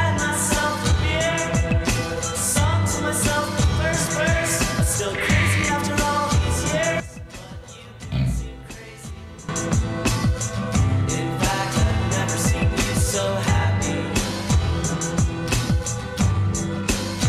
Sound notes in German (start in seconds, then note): 8.1 Schnarcher